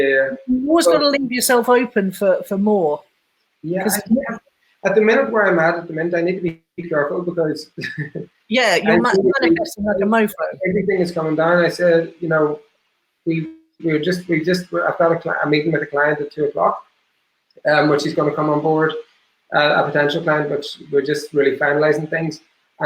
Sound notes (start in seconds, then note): 8.6 laughing